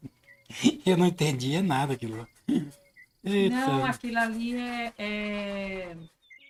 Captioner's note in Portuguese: limpando a garganta